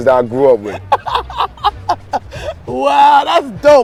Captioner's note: laughing